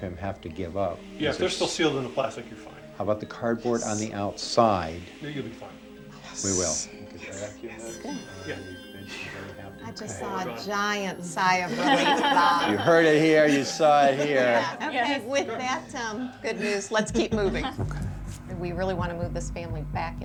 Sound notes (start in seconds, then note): 3.2 whispering; 4.7 whispering; 11.7 laughter